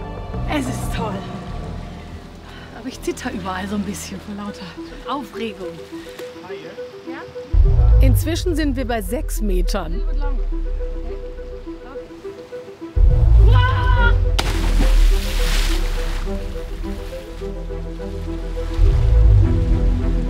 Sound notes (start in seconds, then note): 13.4 screams